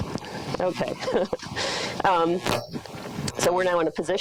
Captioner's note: laughs